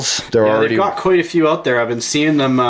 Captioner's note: voiceover